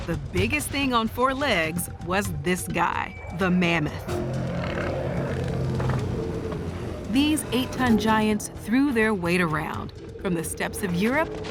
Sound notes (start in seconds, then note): 3.9 mammoth growling